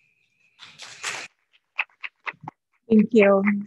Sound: audience applauding

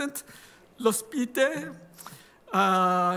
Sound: speaking italian

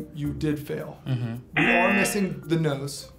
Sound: buzzer rings

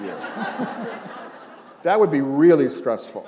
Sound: laughter

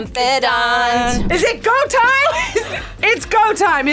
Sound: laughs

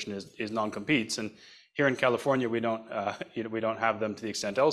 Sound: laughs

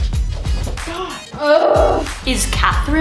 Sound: groans

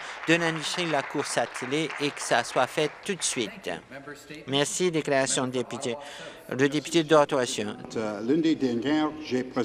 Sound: some Applause

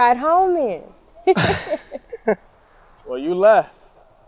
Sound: laughs

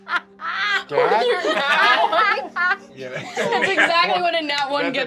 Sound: ethereal music; laughter

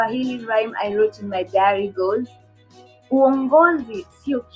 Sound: speaking swahili

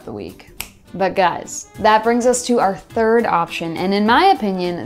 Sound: snap

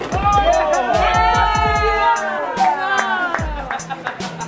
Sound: everybody cheering

